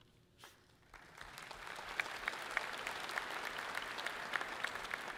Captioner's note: audience clapping loudly